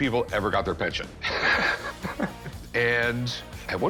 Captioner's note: laughs